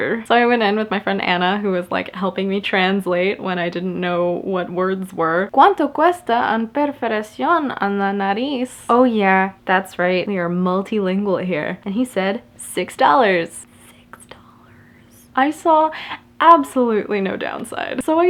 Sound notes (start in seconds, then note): 13.7 whispering